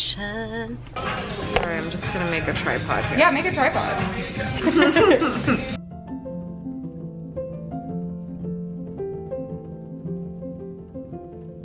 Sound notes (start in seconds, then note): 4.9 laughing; 6.4 serene acoustic music playing